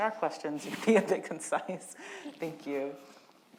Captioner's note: panelists chuckle